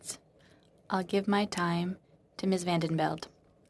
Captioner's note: speaking in french